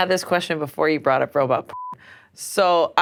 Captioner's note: beep